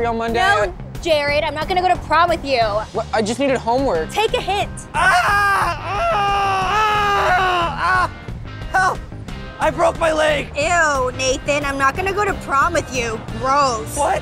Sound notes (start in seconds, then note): 4.9 screams